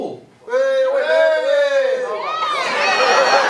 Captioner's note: cheering elsewhere in the audience